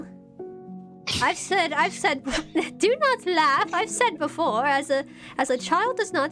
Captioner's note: JADE laughs